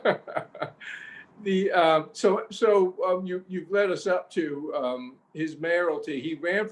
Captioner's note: laughs